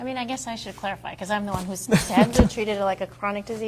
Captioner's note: laughs